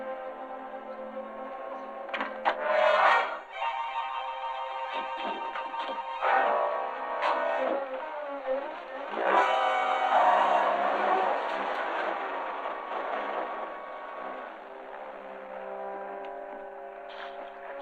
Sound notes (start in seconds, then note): 10.1 engine revving; 14.8 somber music